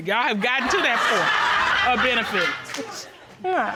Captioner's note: audience laughs